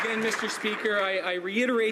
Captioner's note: some Applause